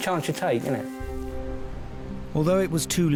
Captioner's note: waves splashing